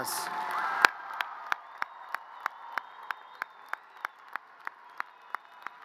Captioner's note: audience cheers and applause